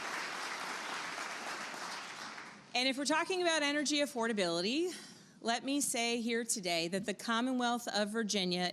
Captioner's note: applause